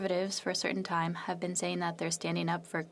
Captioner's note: speaking French